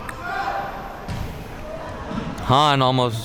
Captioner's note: spectators chattering